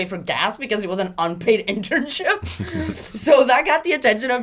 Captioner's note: laughs